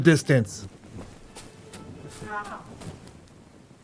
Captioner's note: man screaming